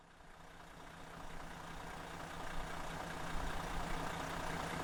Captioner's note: engine rumbling